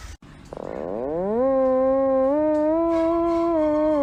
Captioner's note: low droning sound